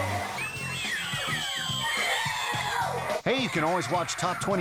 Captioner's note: girls screaming